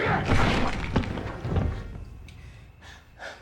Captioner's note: body thuds